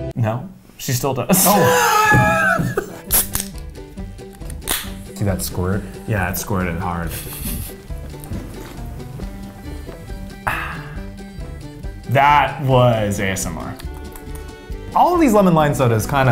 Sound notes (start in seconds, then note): 1.3 laughs; 4.2 soda can pops; 13.8 smacks lips